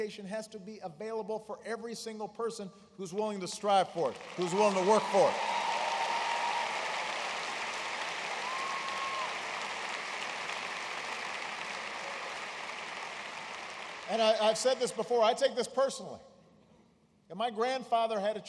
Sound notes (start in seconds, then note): 9.3 applause